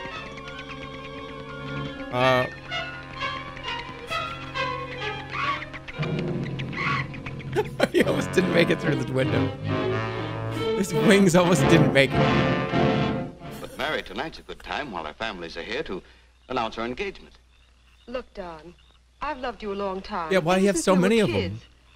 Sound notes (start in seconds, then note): 7.5 laughs; 13.5 laughs wheezily